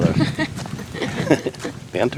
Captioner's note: laughter